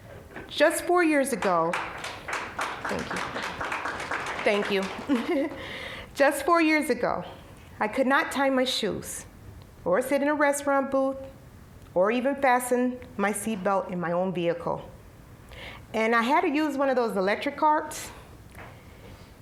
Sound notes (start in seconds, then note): 1.4 applause; 4.8 chuckling